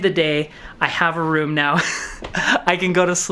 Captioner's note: laughs